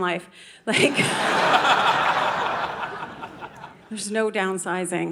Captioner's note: audience laughing